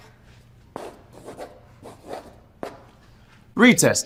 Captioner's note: chalk scrapes